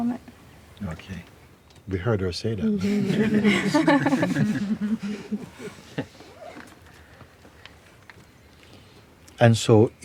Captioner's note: laughter